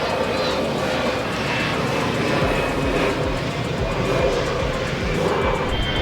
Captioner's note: airplane flying over